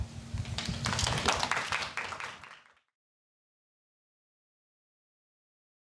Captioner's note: audience clapping hands